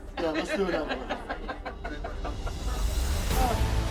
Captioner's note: laughing; dramatic music